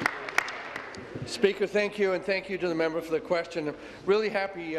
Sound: applause

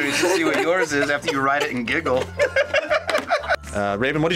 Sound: both laugh

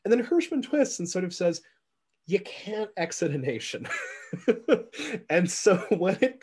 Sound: laughs

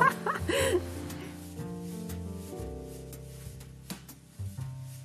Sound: laughs

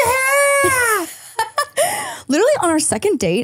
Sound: laughs

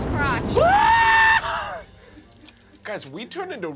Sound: screaming

